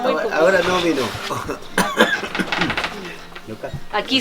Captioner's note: coughs